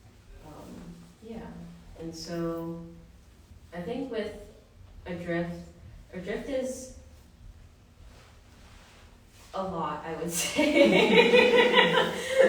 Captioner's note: laughter